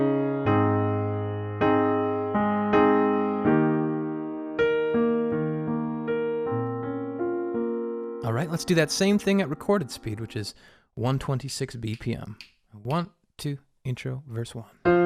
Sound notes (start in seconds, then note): 11.8 snapping